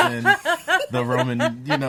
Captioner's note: laughs